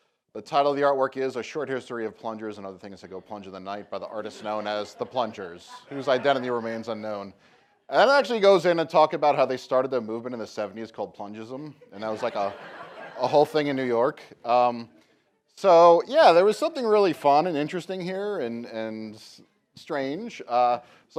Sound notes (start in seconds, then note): 11.6 laughter